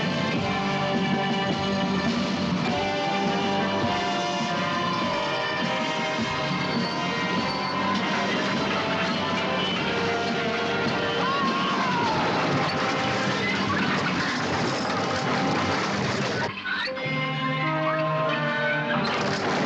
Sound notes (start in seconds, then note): 11.2 screaming